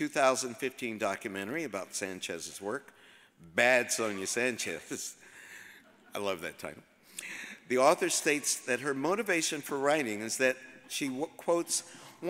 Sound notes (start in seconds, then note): 5.2 audience chuckles